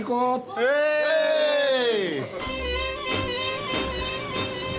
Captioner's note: speaks Japanese